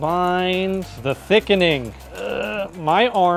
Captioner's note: grunts